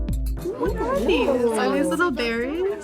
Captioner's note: exclaiming